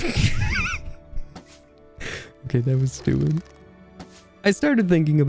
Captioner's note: laughing